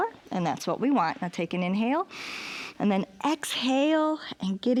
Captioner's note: inhales